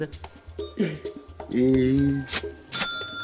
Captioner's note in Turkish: Ağlama sesi; Yazar kasa sesi